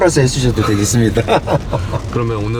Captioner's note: laughs